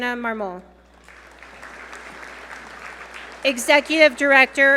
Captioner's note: audience applaud